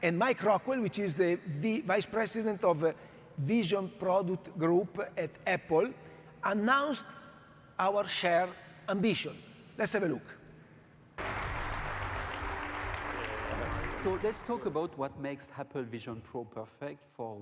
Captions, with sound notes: And Mike Rockwell, which is the vice president of Vision Product Group at Apple, announced our share ambition. Let's have a look. (audience clapping) - So let's talk about what makes Apple Vision Pro perfect